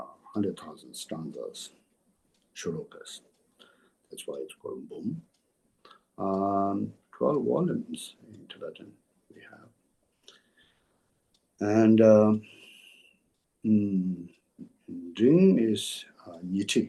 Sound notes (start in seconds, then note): 7.0 tibetan; 15.9 tibetan